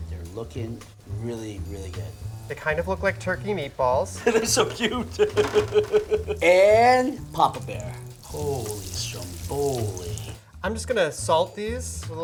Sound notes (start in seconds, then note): 4.1 laughs